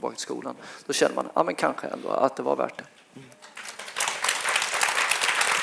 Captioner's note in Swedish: applåd